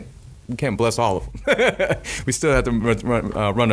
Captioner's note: laughing